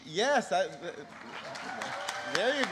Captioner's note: applause